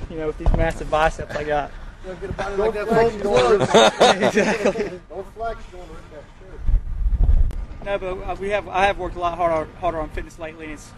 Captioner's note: conversation in background